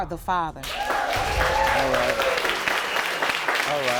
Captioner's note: audience cheering